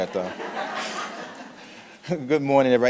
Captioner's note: audience laughing